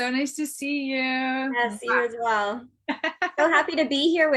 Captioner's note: laughs